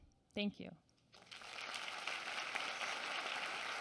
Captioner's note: applause